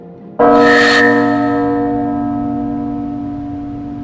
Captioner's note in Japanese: 鐘の音